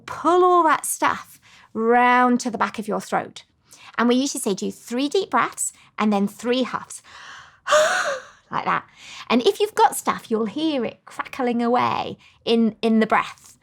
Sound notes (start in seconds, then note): 7.7 huffs